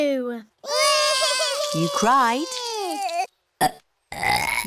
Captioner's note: both bawling; both burping